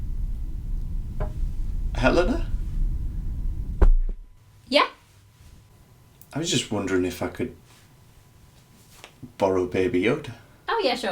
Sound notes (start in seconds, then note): 3.2 baby Yoda thuds